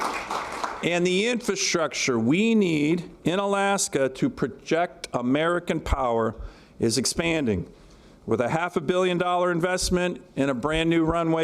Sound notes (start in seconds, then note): 0.0 applause